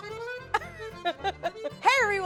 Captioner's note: laughs